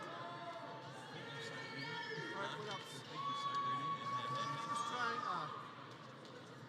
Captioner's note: people chattering; audience faintly cheering